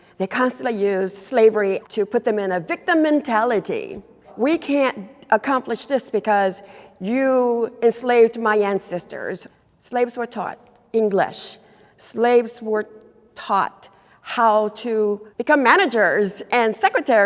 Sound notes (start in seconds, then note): none